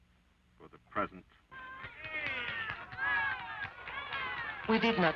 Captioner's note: crowd cheering